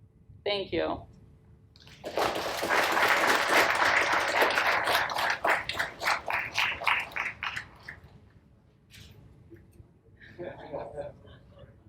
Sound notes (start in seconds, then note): 1.8 audience applauds